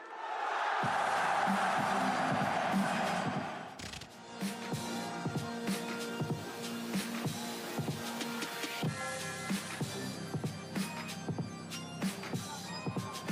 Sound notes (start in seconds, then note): 0.0 cheers